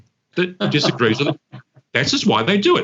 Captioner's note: laughs